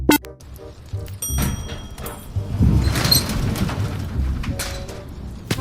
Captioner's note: beep; elevator dings and opens; footsteps